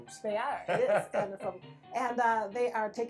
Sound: laughs

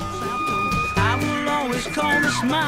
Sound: elk calling

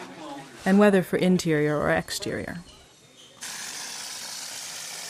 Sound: people talking; sound of the plaster sprayer

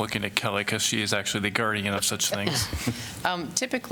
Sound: laughter

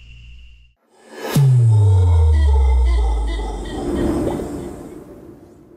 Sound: mono Congo howling

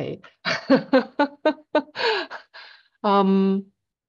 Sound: laughs

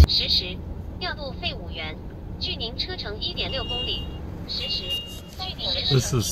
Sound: chinese female robot voice

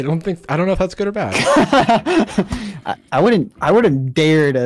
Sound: laughs

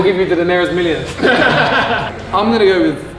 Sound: group laughs

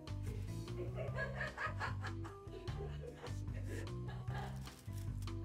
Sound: laughter

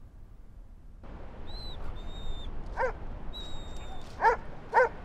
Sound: dog whining, barking

